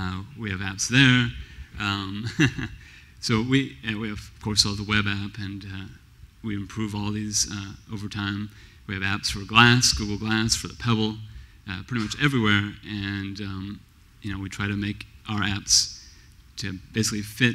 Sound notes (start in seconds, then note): 2.2 laughs